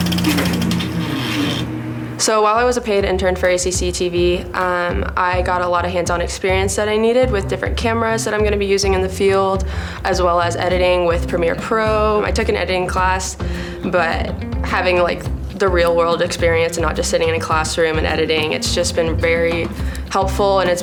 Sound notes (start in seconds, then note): 0.0 door squeaks